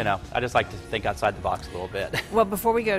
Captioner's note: laughs